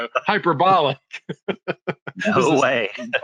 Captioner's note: laughs